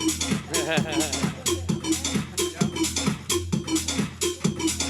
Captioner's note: audience laughing